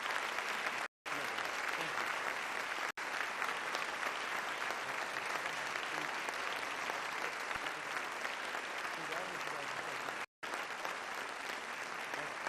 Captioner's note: applause